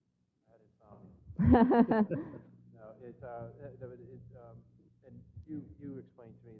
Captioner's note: laugh